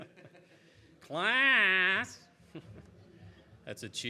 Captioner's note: audience chuckles; chuckles